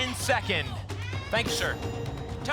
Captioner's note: ping